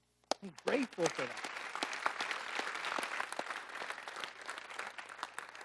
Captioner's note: audience applauding